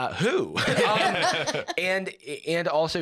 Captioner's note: all laughing